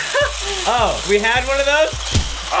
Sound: mixer whirls

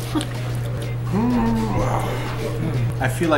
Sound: groans; laughs

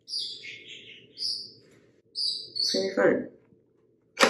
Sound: bird chirping

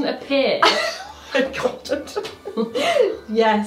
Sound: laughing

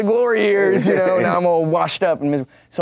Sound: laughs

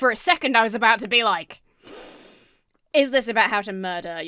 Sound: inhales sharply

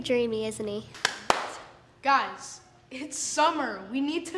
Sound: clapping

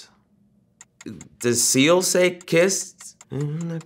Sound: clock ticking

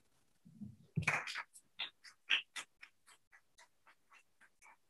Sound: clapping

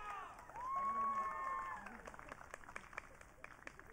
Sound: audience cheering

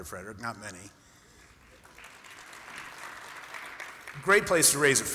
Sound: applause

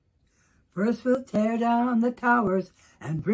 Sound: sing-song tone

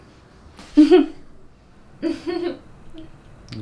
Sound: emma giggles

